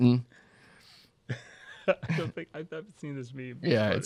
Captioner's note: laughs